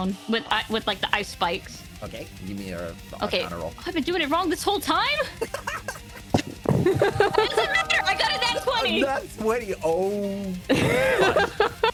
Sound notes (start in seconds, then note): 6.8 laughing; 10.6 laughing